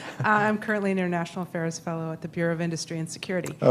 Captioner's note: laughs